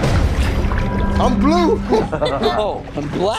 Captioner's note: laugh